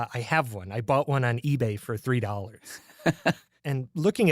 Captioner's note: laughs